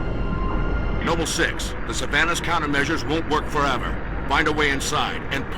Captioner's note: radio